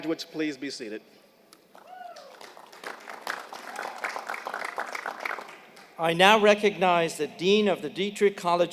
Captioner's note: applause